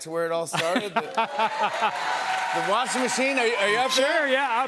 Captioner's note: cheers and applause